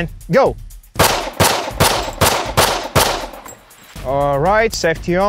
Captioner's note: pistol firing